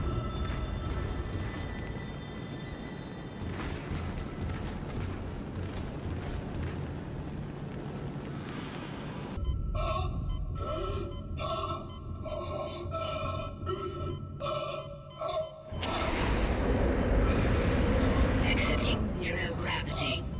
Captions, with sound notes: [tense breathing] [stifled gasping] “Exiting zero gravity."